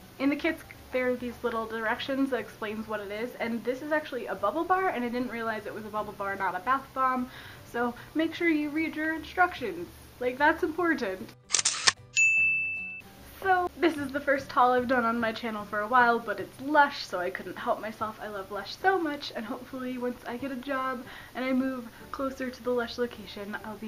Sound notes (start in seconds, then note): 12.2 camera snap, DING